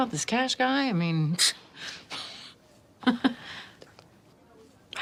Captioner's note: chuckling